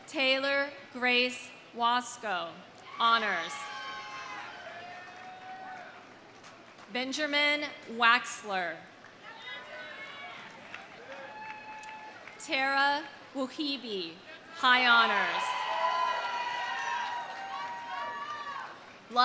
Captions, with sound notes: Taylor Grace Wasco, honors. (audience cheering) (audience applauding) Benjamin Waxler. (audience cheering) (audience applauding) Tara Wehibe, high honors. (audience cheering) (audience applauding)